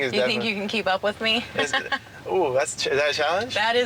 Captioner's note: giggles